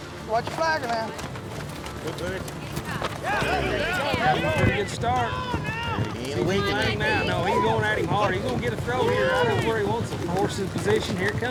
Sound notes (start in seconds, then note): 2.4 flag whips; 3.8 all shouting